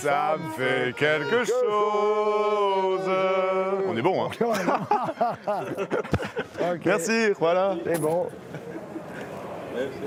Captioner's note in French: rires